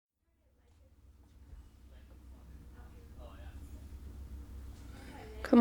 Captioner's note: store ambiance throughout